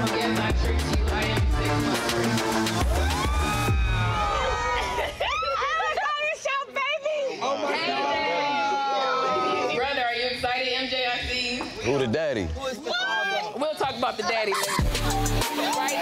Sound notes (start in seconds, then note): 2.7 crowd cheering; 13.9 people laughing; 14.4 intense hip-hop music